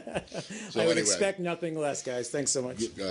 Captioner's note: laughter